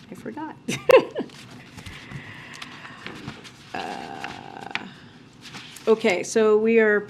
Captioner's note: laughs